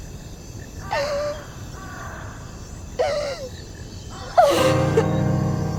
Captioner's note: crows cawing